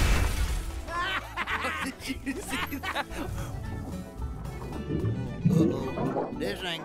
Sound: laughing

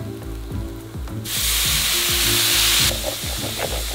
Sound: sizzling

